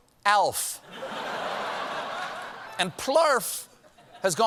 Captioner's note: laughter